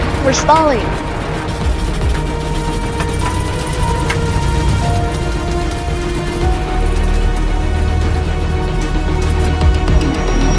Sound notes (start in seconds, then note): 1.7 turbulence